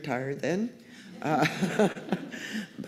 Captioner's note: laughter